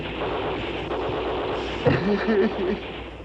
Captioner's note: gunfire